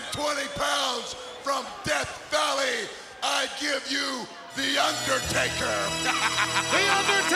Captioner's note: laughs